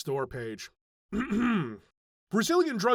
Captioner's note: clears throat